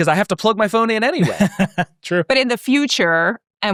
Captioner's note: laughing